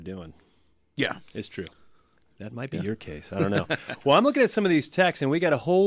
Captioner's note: laughs